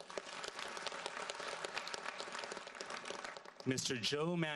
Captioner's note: audience applauds